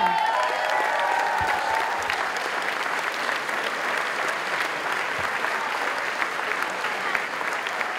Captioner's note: applause